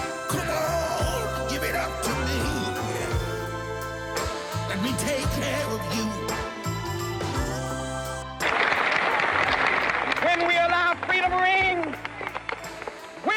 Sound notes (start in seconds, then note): 8.4 audience applauding